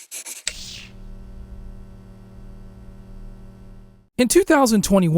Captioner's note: pencil drawing sounds; electric sounds